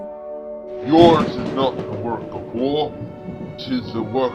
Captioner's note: thunder